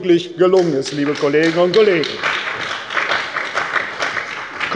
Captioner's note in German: Beifall bei der CDU und dem BÜNDNIS 90/DIE GRÜNEN